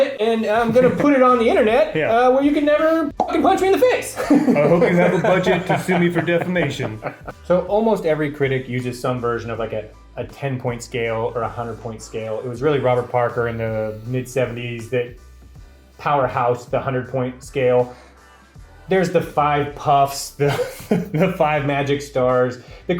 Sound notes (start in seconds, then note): 3.1 pop; 4.1 laughs